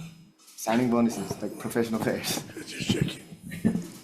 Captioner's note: laughs; superintendent laughs